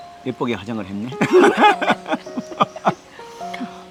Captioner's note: both laughing